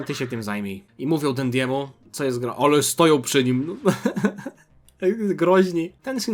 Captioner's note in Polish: śmiech